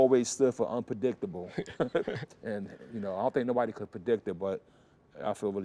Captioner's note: laughter